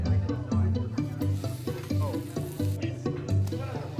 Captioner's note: sizzling sounds